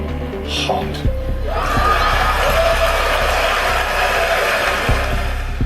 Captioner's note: cheering and applause